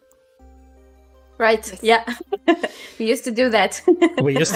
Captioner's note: laughs